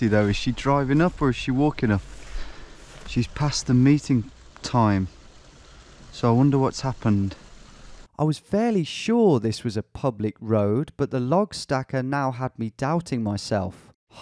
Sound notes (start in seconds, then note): 8.1 voiceover